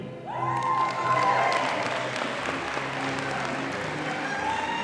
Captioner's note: audience applauding